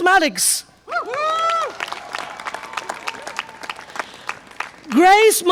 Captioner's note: audience applause and cheer